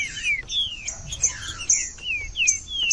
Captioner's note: trinca ferro cantando